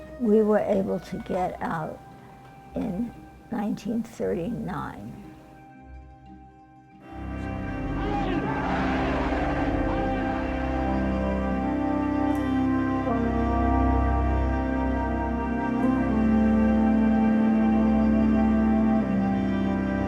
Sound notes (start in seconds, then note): 7.1 somber music; 7.6 soldiers shouting; 16.5 somber music continues